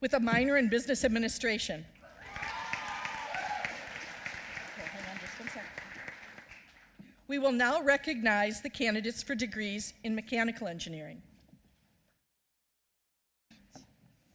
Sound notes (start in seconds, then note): 2.1 applause